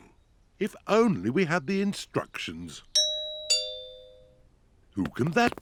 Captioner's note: doorbell rings